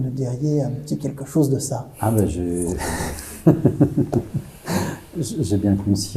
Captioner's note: laughs